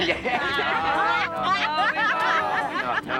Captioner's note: laughing